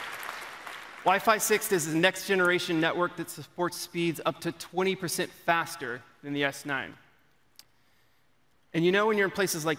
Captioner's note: applause